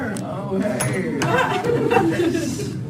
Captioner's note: laughter